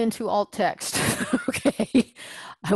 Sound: laugh

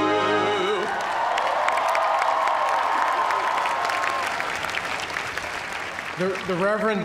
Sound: song ends; cheers and applause

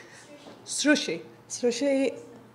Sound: voiceover

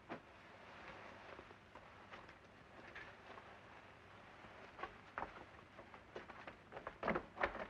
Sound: mattress rustling

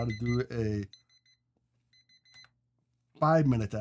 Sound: beeping

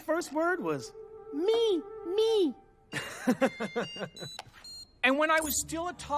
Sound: cellphone ringing

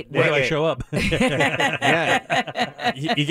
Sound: laughing

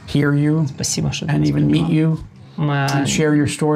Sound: speaking in foreign language

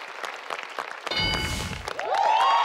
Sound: audience clapping; bell dings; audience cheering

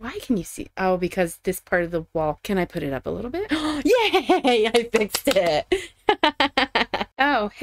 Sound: gasp; laughing

